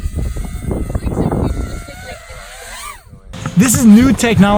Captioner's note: chattering on the background